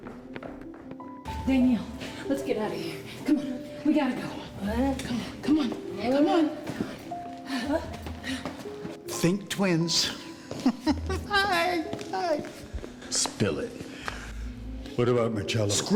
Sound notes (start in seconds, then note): 8.0 groaning; 10.4 chuckles